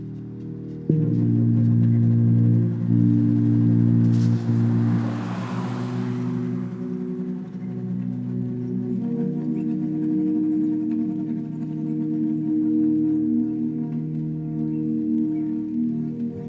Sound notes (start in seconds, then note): 4.1 car rustling; 7.4 gentle distorted music continuing